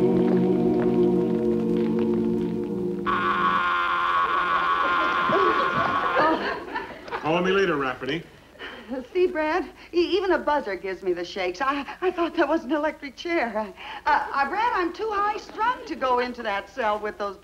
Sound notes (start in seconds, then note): 2.8 machine buzzes